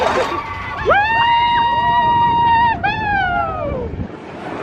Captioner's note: all screaming